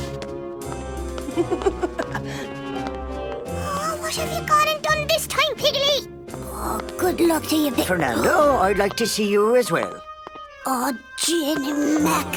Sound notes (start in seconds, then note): 1.2 chuckling; 12.1 class murmuring